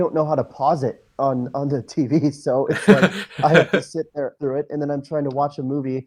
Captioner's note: laughs